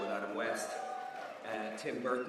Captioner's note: audience cheers